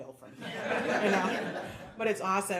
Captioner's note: audience laughing